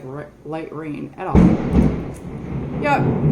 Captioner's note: thunder